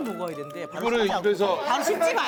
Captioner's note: chew